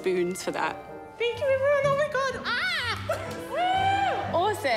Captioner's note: exclaims